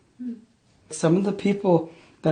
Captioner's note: voiceover